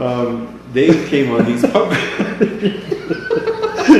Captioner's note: laughing